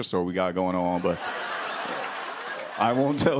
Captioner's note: laughter